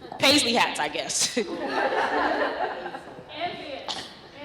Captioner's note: laughter